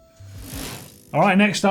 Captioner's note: bicycle gear whirs